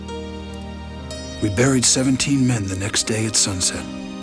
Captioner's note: none